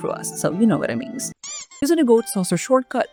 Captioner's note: squeaky death sfx